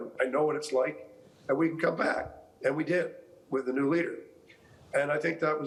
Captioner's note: none